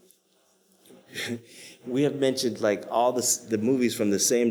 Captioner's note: chuckles